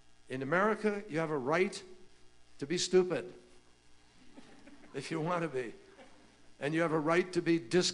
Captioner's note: laughter